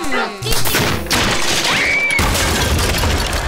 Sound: screaming

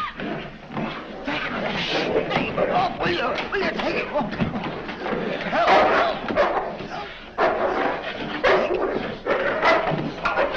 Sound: confused shouting, barking

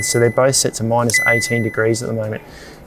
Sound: fridge beeps

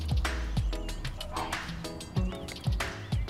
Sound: barks

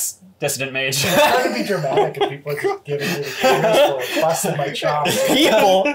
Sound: laughing, I can't tell what saying here

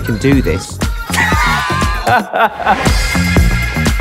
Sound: laughter

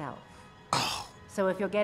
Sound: frustrated exhale

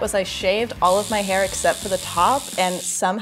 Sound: shaver buzzing

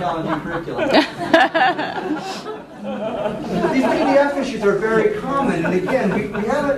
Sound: laughter

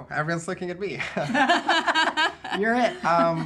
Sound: all laughing

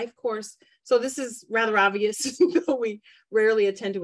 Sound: giggles

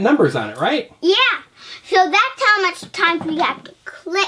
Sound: voiceover

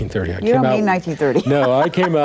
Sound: chuckling

